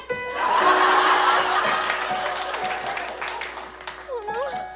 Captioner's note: audience laughs